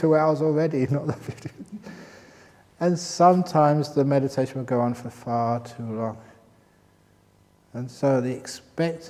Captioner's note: laughs